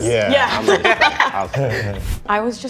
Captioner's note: laughter